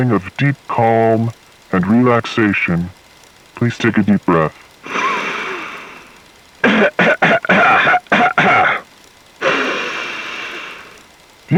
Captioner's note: breathing in. Coughing. Breathing in again